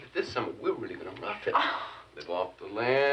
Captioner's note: Jan scoffs